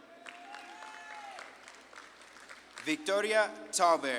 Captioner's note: audience claps and cheers